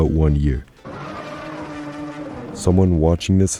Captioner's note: Prowler Siren VFX